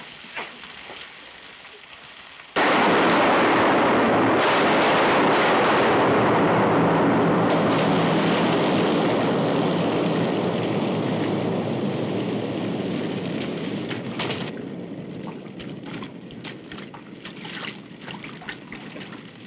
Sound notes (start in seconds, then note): 2.9 gunshots